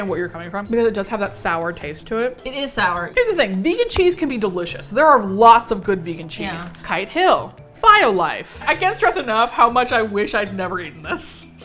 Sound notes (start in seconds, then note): none